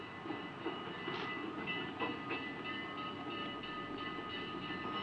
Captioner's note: train bell ringing